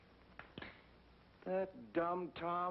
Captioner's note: click